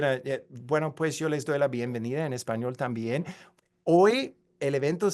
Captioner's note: speaks in foreign language